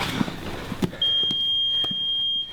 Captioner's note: beep